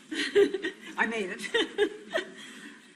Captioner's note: laughter